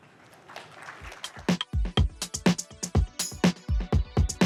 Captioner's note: applause